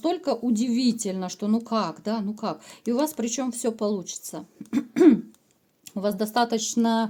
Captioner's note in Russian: откашливается; кашель